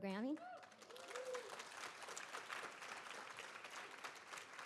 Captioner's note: audience applauding